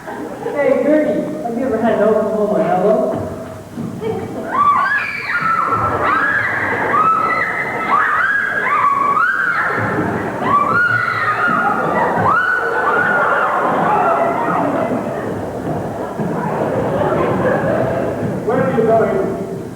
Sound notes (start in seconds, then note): 4.4 screaming, fighting; 13.2 laughter